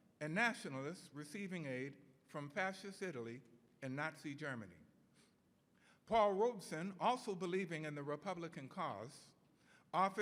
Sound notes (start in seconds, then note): none